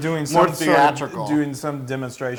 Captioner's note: laugh